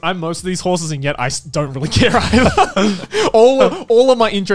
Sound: laughs

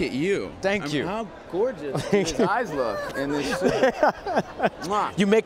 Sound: laughs

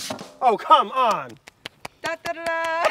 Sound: clapping

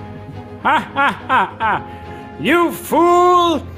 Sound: laughs

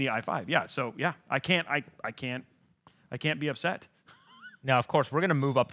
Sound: laughs

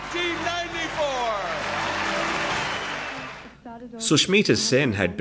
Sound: audience cheers and claps

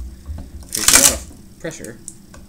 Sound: cracking

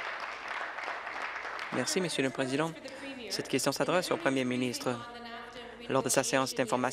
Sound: applause

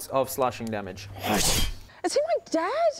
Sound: slash

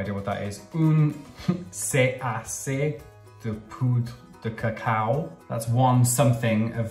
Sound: speaking in foreign language

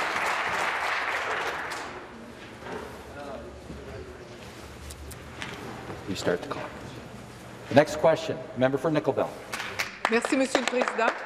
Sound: applause

